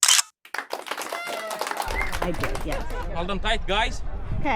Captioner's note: clapping